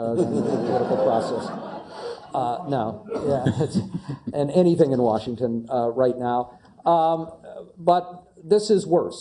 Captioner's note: laugh